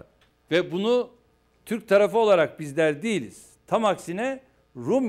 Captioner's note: non-english speech